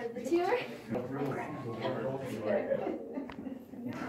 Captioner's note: miscellaneous chatter